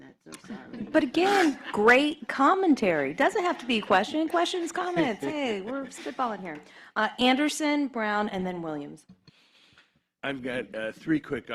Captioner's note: laughter